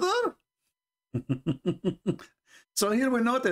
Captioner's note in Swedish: Skratt